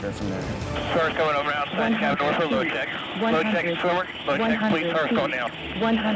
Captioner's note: helicopter Alarm